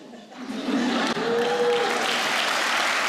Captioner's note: laughter; applause